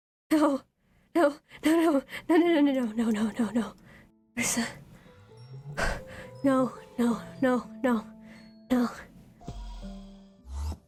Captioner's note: gasps